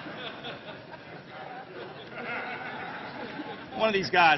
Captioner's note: laughter